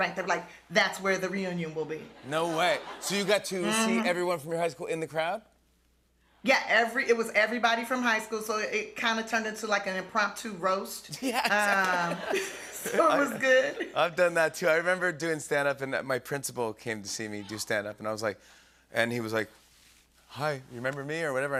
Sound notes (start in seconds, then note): 11.2 laughter